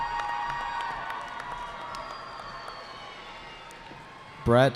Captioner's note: cheering